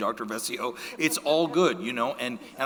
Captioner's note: audience laughing